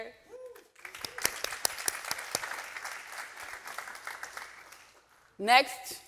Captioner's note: audience applauding and cheering